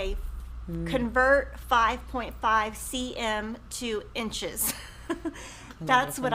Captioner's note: chuckles